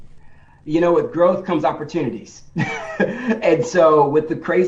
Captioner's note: laughs